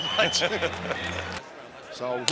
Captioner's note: laughter